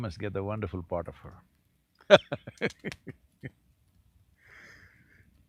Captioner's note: laughs